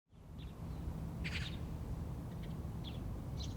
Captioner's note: birds chirping